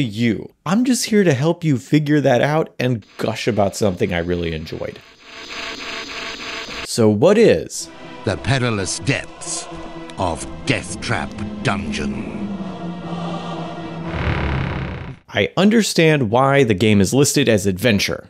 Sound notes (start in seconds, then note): 5.1 electronic Noise; 14.0 door Squeak